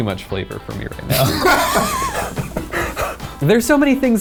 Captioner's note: laughs